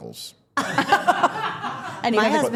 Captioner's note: all laughing